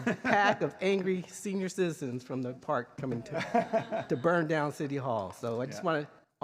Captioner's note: laughter